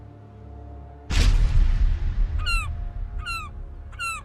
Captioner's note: dark ominous music continues; thunder smashing; gull squawking